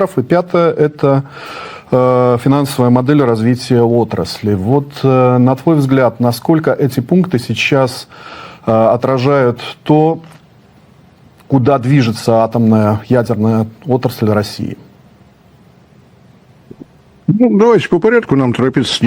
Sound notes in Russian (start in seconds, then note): none